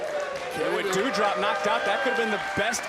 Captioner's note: crowd cheers